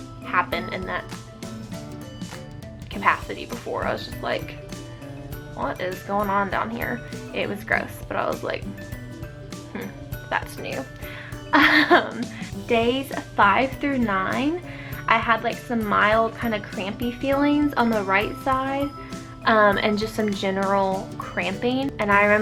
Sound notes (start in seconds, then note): 11.5 awkwardly laughs